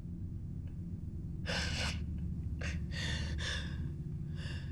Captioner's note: sobbing